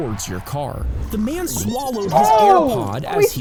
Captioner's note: both gasping